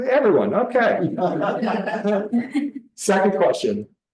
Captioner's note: everybody laughing